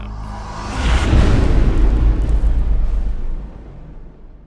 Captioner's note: impact